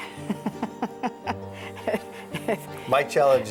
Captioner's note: laughs